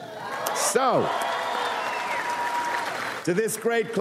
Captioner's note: audience applauds